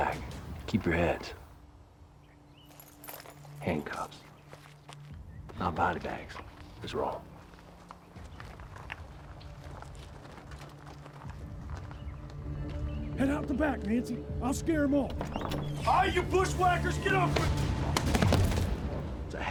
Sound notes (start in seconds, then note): 5.9 footsteps; 15.2 door creaks open; 17.1 thud